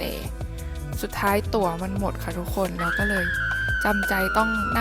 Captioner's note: screams